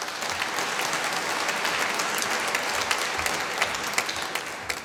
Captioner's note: applause